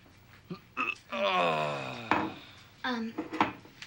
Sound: Rick groaning

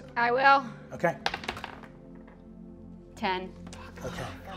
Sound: dice rolling

